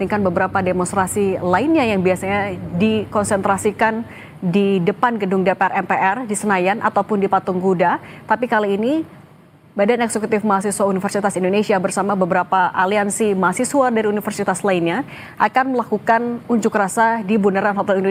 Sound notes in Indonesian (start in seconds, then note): none